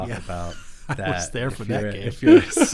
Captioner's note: laughing